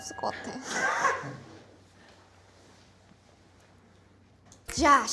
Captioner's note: and once again… silence